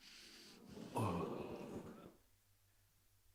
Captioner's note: laughter